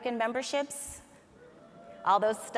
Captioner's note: audience cheers